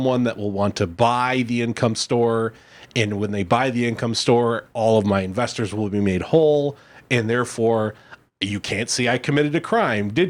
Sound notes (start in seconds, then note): none